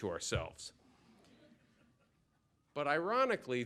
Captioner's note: laughter